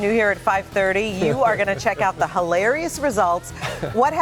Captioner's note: laughter